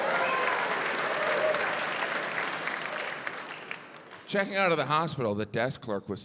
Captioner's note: audience cheering, applauding